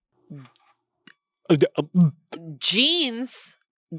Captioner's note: stammers